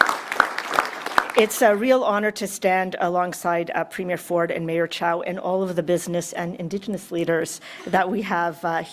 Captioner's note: applause